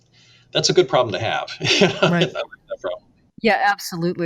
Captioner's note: laughs